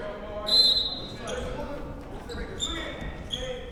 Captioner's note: whistle blows